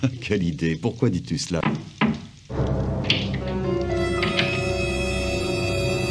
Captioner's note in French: On frappe à la porte; Musique effrayante